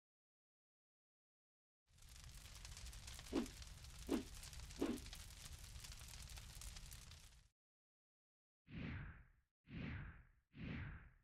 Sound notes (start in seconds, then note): 1.9 fire burning